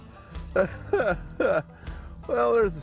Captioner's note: chuckles